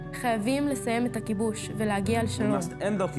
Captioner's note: speaking foreign language